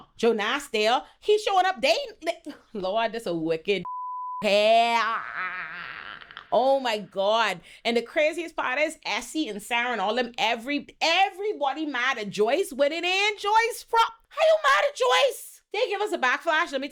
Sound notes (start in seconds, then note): 3.8 beep; 4.7 groans